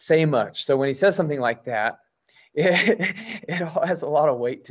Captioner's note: laughs